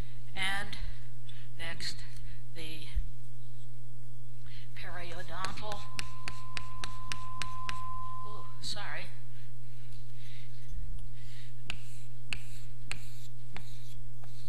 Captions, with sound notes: And next, the periodontal-- [HIGH-PITCHED NOISE] Ooh. Sorry.